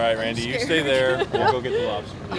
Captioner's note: riendo